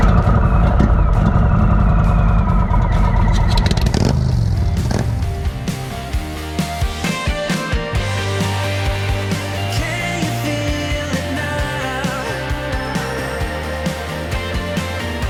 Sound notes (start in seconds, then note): 0.0 engine rumbling; 4.0 motorcycle engine starting; 5.7 energetic rock music